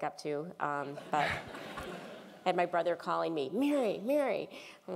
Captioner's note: laugh